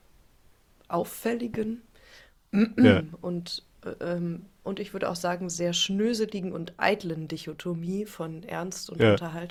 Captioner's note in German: räuspern